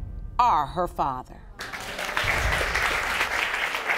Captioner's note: audience applauding